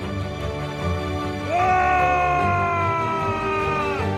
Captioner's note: shouting